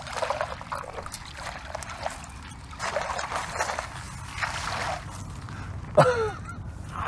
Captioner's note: water splashing